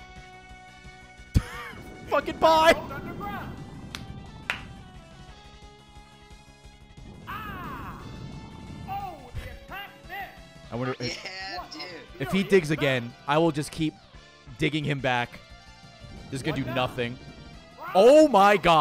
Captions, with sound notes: (laughs) Fucking bye! (laughs) I wonder-- If he digs again, I will just keep digging him back. This is gonna do nothing. Oh my God,